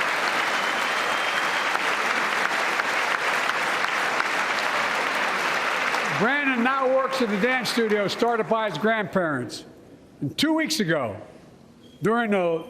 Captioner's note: applause